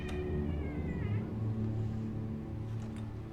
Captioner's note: door creaks